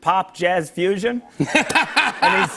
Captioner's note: laughter